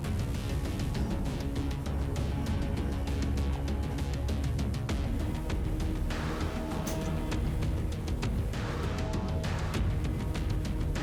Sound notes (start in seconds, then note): 6.8 gun clicking